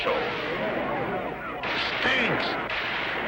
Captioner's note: gunshot firing aggressively